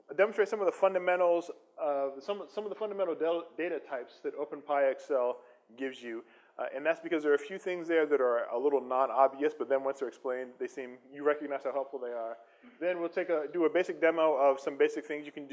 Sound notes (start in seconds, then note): none